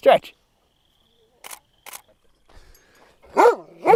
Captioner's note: click, click; dog barks